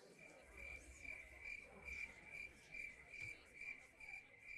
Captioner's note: crickets chirping